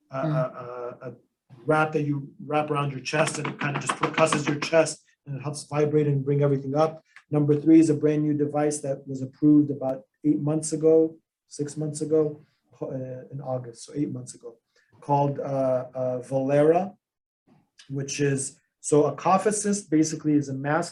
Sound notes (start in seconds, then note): 3.2 thumps